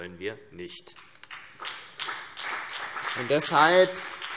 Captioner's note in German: Beifall CDU und BÜNDNIS 90/DIE GRÜNEN